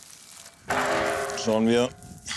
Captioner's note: clanking